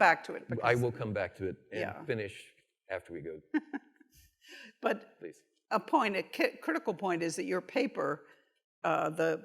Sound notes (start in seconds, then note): 4.0 chuckles